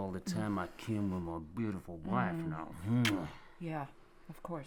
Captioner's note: kiss smacking